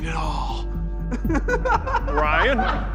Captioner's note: laughing